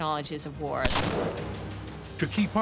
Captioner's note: gunshot